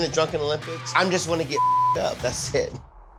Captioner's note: beep